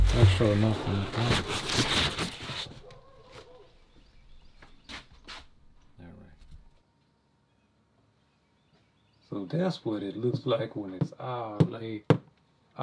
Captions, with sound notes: Make sure nothing's under it. (a dog barks) Alright. So that's what it looks like when it's all laid out...